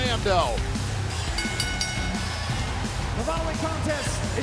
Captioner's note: bell ringing